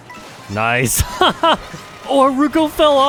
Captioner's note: laughs